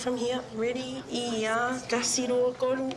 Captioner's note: speaks samoan